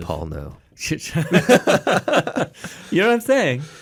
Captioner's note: both laughing